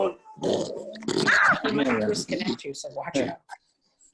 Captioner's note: George snorts